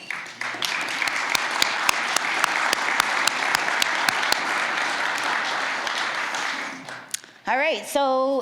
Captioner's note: applause